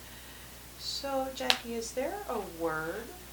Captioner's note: click